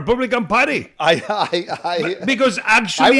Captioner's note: Cory laughs